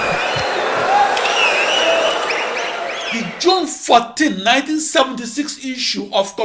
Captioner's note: wild applause and cheering for 22 seconds